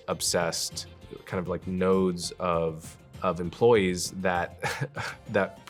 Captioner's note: laughing